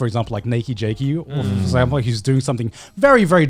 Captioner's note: affirmative murmuring